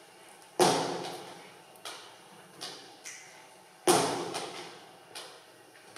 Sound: body percussion stomping and snapping

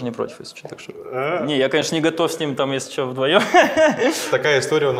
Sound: laughs

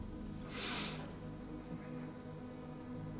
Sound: sniffles

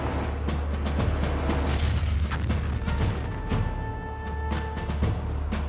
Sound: explosion

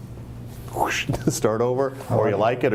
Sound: whooshing

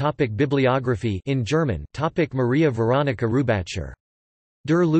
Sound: in German

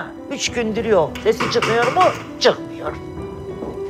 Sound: knock on door

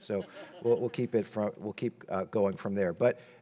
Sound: audience laughing

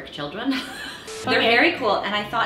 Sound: laughing

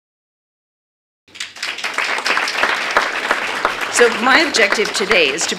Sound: applause

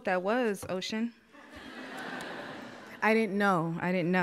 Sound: audience laughs

